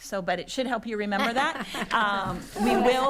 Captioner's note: attendees laughing